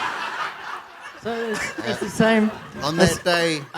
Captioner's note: laughter